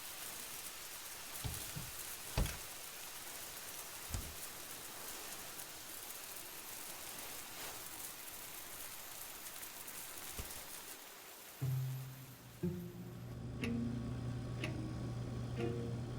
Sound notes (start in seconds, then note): 14.6 clock ticking